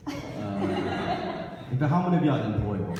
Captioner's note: audience laughs